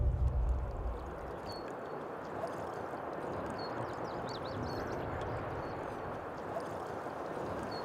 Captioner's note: birds singing; paddle swishing water